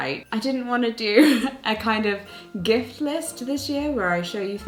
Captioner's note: laughing